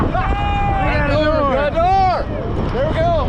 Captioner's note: cheering